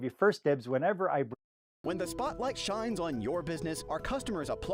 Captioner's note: voice-over